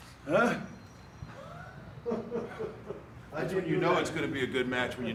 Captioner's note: chuckling